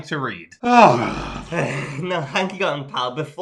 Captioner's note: sighs